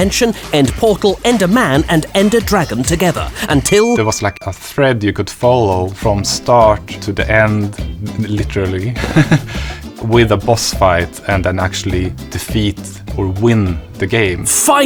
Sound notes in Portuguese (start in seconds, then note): 8.9 risos